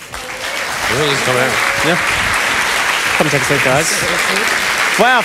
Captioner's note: applause